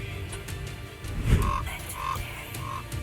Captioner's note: raven calls